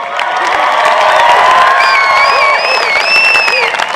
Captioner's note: applause